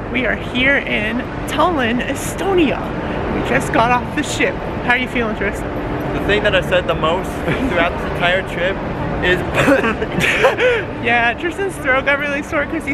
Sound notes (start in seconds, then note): 9.5 lols; 9.5 coughs